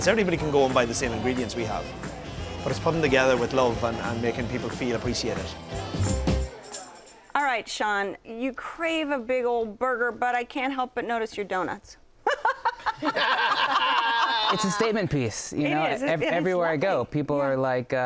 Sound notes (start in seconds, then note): 12.3 laughing